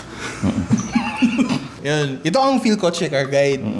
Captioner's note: laughs